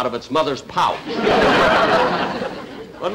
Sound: audience Laughing

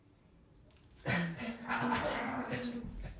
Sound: people disagreeing

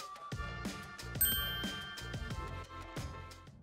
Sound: timer dings

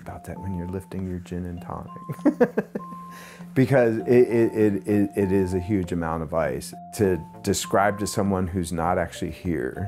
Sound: laughs

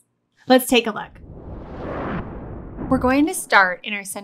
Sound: frame whooshes

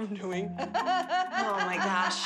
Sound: laughter

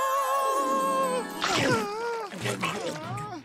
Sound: chomping

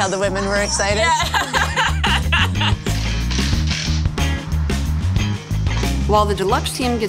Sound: laughs

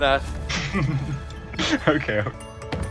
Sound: giggling

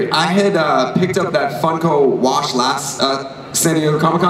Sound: none

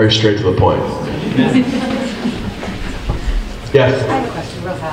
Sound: group laughs

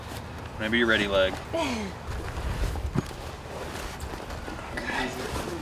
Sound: chuckles

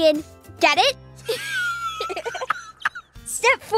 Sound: Olaf laughs

